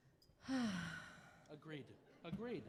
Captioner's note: sighing